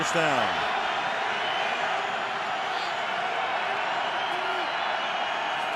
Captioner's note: cheering